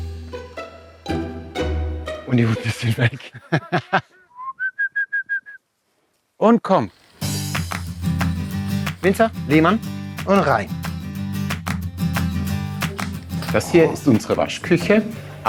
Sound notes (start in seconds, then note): 0.0 curious music; 2.2 laughs; 4.2 enticing whistles; 7.4 lively music